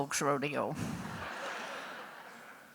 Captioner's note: laughter